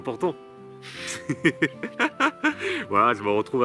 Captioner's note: laughs